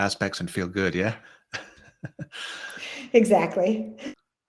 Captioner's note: chuckles